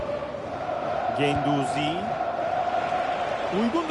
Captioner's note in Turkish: coşkulu tezahürat